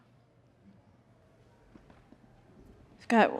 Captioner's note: audience chattering